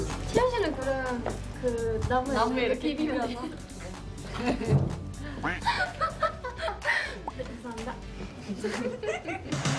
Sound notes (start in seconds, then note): 5.4 muted laughter